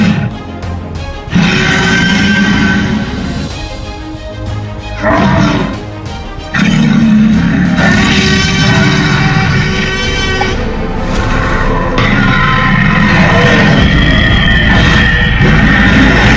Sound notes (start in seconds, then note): 0.2 T-Rex roaring; 5.0 growling; 8.3 T-Rex roaring; 11.9 Indominus Roaring